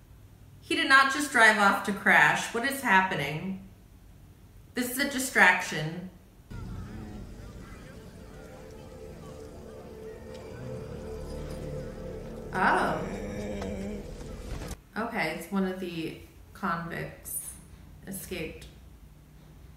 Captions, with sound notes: He did not just drive off to crash, what is happening? This is a distraction. (ominous music) - Oh. (man softly groaning) Okay, it's one of the convicts escaped.